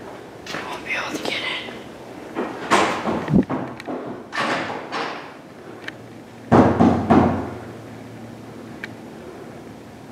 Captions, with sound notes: He won't be able to get in *banging on door* *LOUD BANGING*